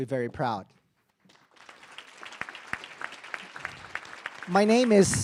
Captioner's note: audience applauding